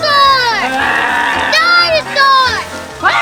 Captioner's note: roars